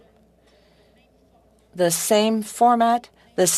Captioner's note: speaking French